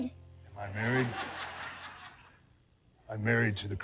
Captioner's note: audience laughs